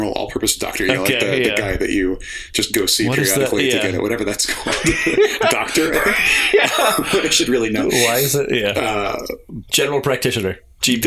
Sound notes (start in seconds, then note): 4.4 laughter